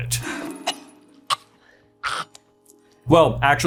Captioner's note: coughing and hacking